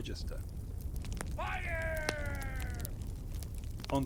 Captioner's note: man shouting 'fire'!